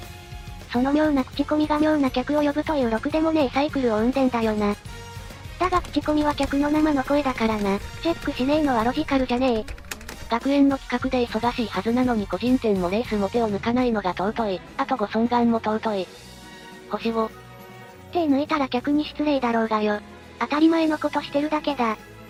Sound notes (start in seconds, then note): 7.3 clack clack